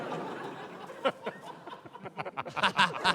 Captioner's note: laughter; laughter continues